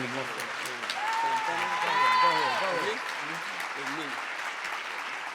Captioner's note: audience clapping and cheering